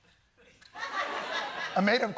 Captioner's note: laughter